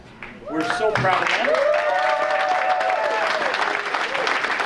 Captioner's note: audience cheering